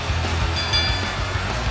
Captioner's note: bell rings